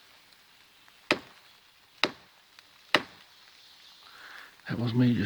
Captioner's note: stick knocking